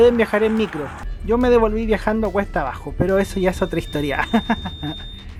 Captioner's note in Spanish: risas